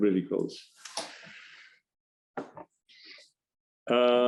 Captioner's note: silence- some shuffling noise